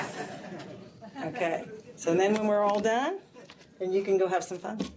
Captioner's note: laughter